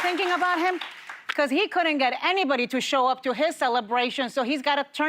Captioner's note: applause